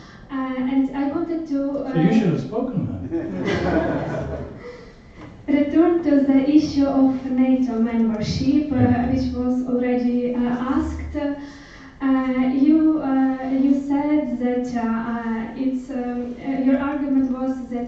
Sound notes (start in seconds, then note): 3.0 laughter